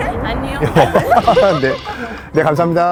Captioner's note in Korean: 서로 빵 터짐